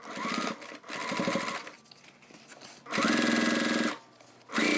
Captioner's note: sewing machine whirring